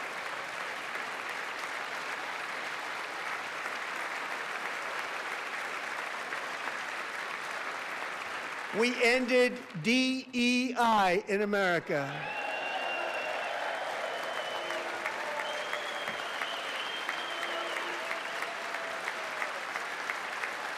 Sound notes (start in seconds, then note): 2.8 applause